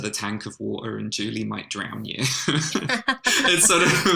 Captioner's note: laughter